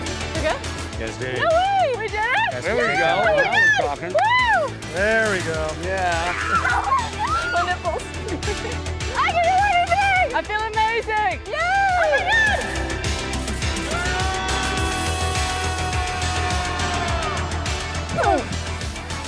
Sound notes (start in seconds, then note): 6.2 screams; 13.9 man screams; 17.6 upbeat music